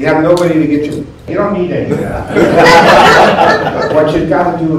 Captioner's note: laughter